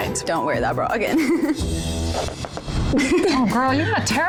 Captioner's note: laughs